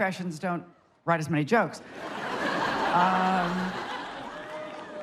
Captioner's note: crowd laughs